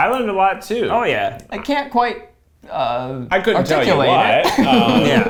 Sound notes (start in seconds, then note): 3.6 laughing; 4.0 laughs